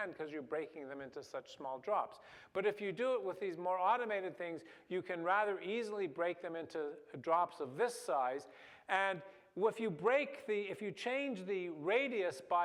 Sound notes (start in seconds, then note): none